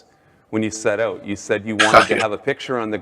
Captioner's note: chuckles